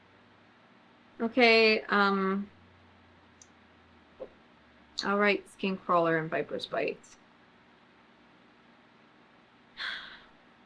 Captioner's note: sighs